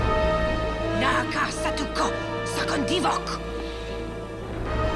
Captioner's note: speaking in foreign language